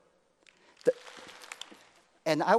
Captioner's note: applause